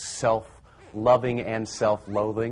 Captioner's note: laughing